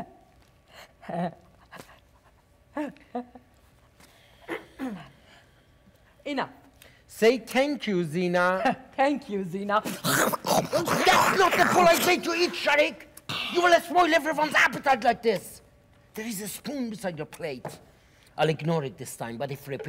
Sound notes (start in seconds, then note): 4.4 Professor softly clears throat; 9.8 Sharik loudly slurping